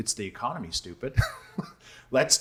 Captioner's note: laughing